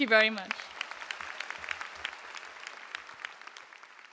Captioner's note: applause